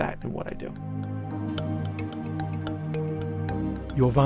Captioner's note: voiceover